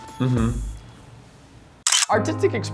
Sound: camera clicks

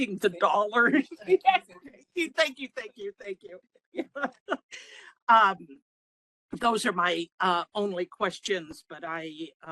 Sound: laughing

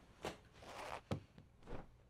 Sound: zipper noise

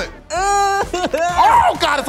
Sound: groaning

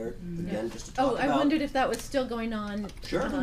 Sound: voiceover

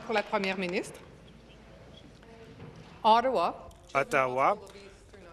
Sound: speaking in French

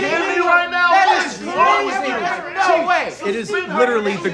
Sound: overlapping chatter

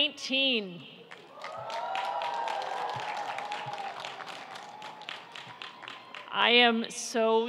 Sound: audience applauding and cheering

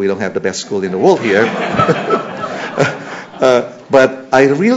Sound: laughter

